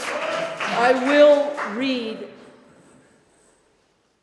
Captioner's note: applause continues